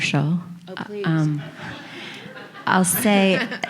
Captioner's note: audience laughing